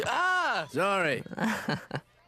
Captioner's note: yells